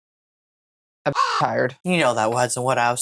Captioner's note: caw